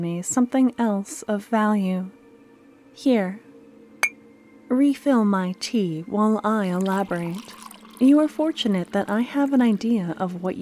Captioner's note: sound of a cup